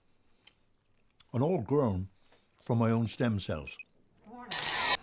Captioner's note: watch beeps